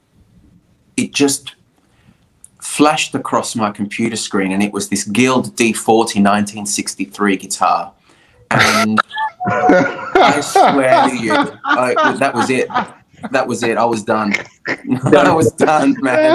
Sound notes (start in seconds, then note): 8.5 laughter